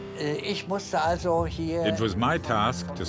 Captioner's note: speaking in foreign language